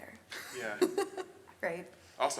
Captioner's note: laughs